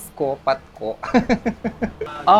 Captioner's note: laughs